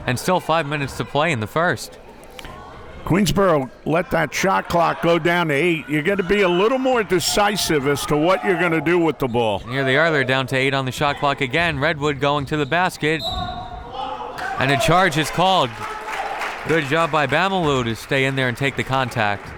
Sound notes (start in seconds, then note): 13.2 whistle tweeting; 16.1 crowd members clapping